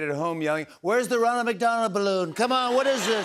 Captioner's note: imitates donald trump